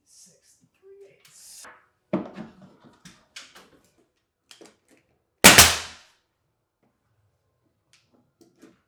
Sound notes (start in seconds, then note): 2.1 wood thudding; 5.4 nail gun popping